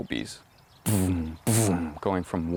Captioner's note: buzzing